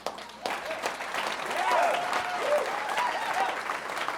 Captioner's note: audience cheering